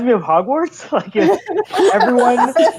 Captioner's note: laughing